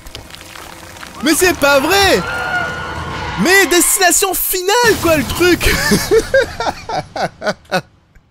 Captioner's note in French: Rire